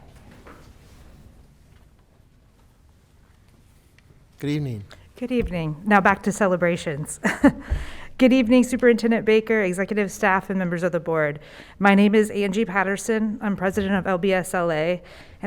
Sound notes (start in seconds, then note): 7.7 laughs